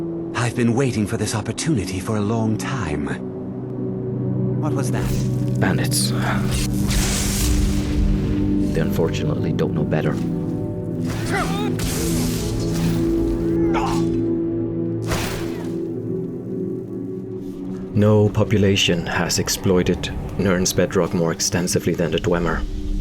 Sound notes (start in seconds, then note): 6.4 kazaahp!